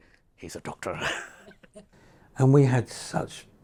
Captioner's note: chuckles